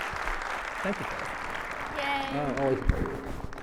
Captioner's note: attendees applauding